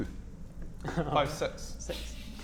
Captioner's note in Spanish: Risa compasiva